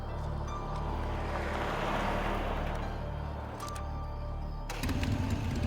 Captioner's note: traffic rumbling